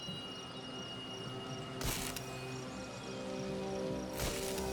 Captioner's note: electricity crackling and buzzing